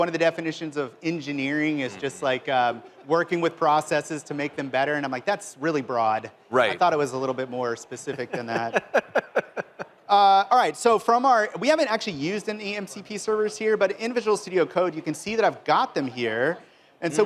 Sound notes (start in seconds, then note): 8.0 laughter